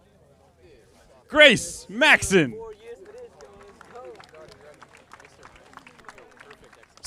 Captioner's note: audience applauding